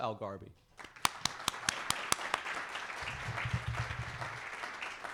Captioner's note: audience applauding